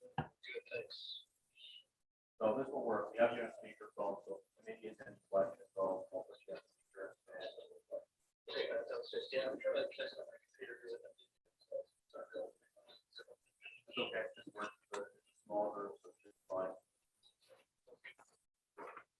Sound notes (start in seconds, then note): 4.6 speaking distantly